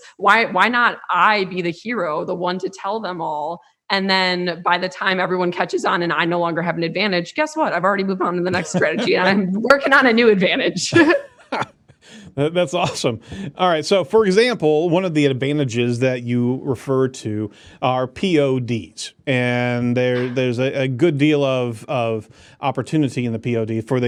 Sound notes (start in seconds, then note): 10.9 laughs